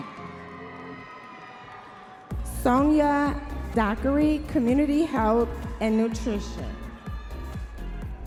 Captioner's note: audience members cheering